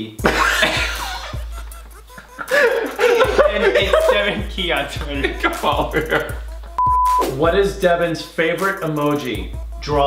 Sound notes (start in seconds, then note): 0.2 brothers laugh loudly; 6.5 laughs loudly